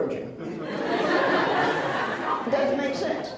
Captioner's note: laughs